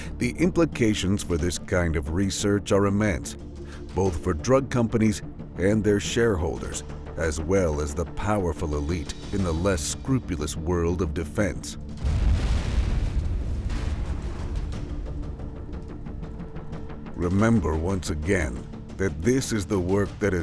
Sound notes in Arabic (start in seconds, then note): 12.0 انفجار قوي